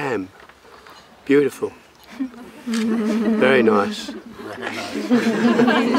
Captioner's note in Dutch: gelach